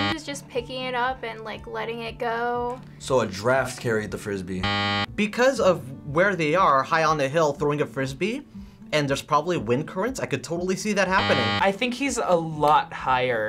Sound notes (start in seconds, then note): 4.6 buzzer